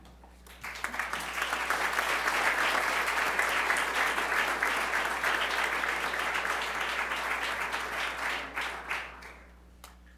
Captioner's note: applause